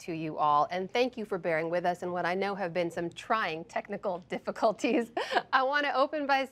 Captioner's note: laughs